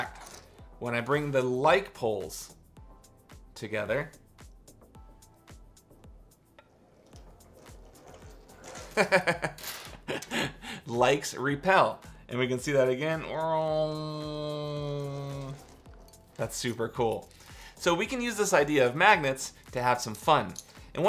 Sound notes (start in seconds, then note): 9.0 laughs; 13.4 grunting